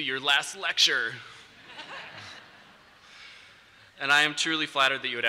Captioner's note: laughter